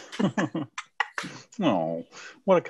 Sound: both laughing

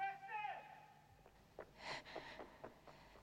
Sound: running footsteps approach; gasps, blows

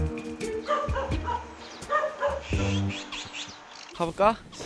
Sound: they could only hear dogs barking

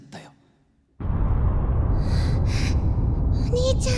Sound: explosion

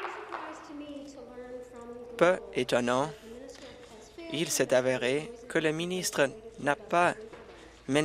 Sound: applause

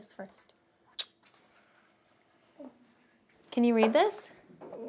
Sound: kissing

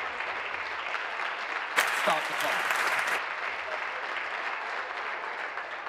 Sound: applause

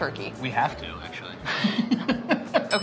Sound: laughs

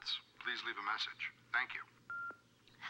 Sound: beeps

